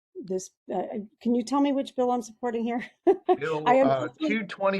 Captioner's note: laughs